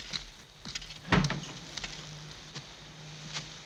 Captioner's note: door opens